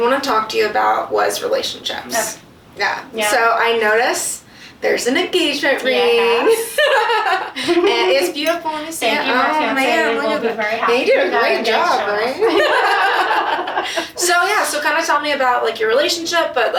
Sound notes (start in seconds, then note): 6.6 both laugh; 12.4 both laugh